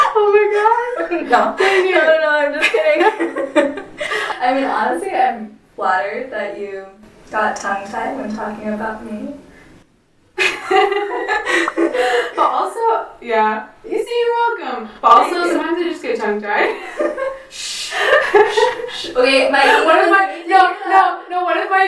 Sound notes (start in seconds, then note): 3.8 laugh; 10.4 laugh